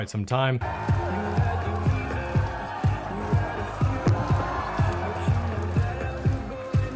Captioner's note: crowd cheers; upbeat music